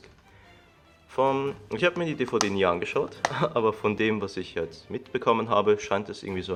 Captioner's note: embarassed laugh